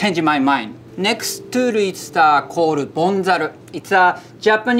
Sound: text chiming

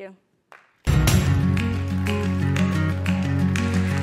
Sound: applause

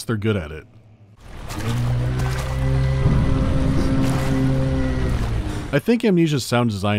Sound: deep, inhuman wail

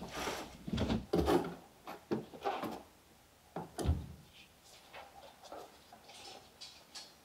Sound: packing sounds

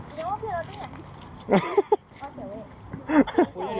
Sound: laughs

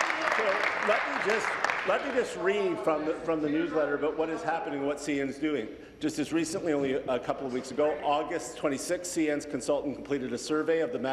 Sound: applause

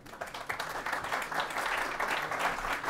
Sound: applause

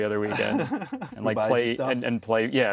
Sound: laughs

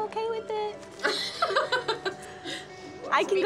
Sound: laughter

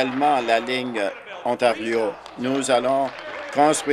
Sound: applause

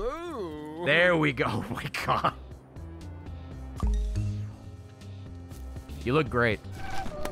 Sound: laughs

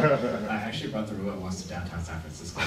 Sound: laughing

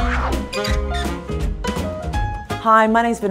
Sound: lively upbeat music; logo creaking

